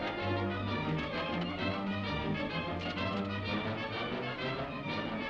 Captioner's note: horse hooves clopping; dramatic music